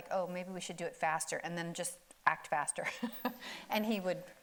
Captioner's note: laughs